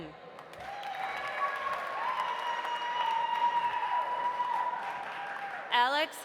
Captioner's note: audience applauding; audience cheering